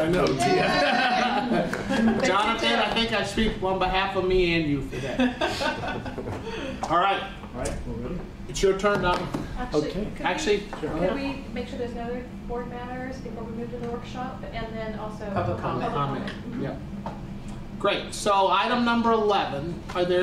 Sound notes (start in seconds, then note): 0.7 clapping and laughter; 4.9 laughs